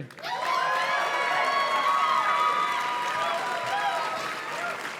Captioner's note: audience cheers and claps